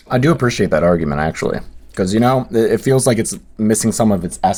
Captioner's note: none